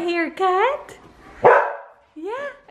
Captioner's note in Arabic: مادي ينبح